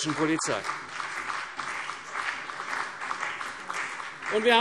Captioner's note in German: Beifall